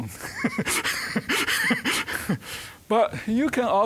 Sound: chuckling

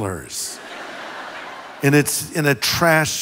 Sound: congregation laughs

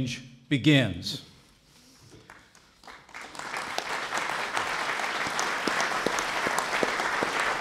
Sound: applause

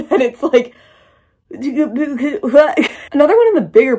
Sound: confused stammering

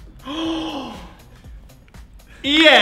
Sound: inhales

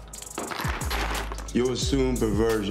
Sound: crash

